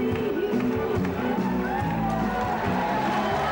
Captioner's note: crowd cheering; gentle upbeat music